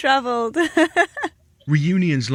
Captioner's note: laughs